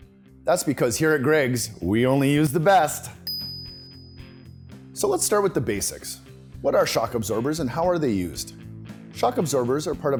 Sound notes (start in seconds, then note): 3.2 ding